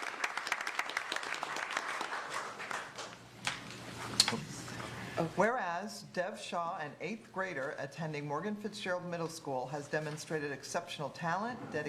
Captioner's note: applause